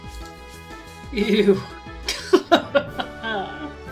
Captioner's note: laughter